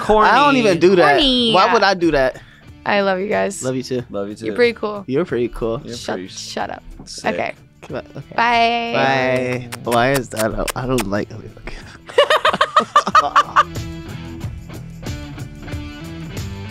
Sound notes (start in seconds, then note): 12.0 laughter; 14.1 rock music